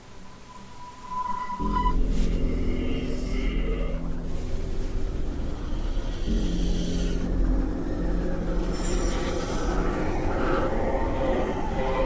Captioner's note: ghostly noises and mumbling